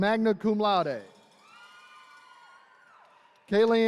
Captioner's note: attendees cheering